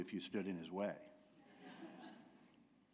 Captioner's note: laughter